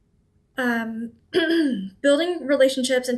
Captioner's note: clears throat